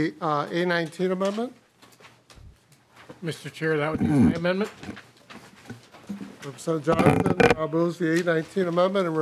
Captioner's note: gavel